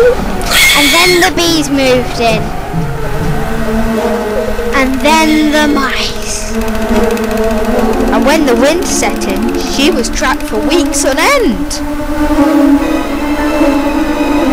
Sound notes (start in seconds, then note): 7.1 squeak